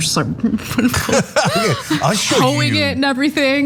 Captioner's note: laugh